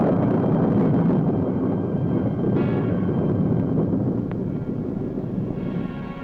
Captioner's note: thunder booms